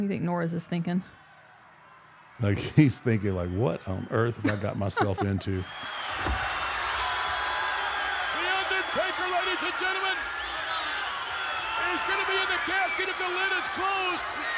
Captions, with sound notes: What do you think Norris is thinking? Like he's thinking like, what on earth have I got myself into? (audience cheering) The Undertaker ladies and gentlemen. He's gonna be in the casket if the lid is closed